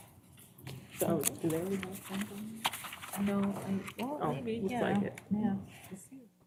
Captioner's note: indistinct chatter